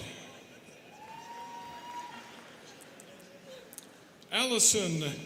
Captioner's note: students cheering